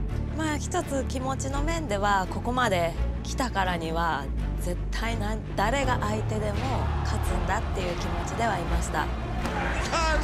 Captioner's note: speaking japanese